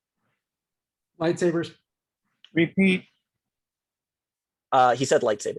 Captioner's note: calm Voice